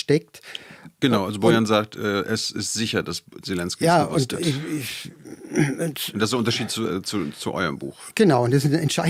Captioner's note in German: räuspern